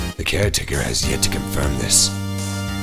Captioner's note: none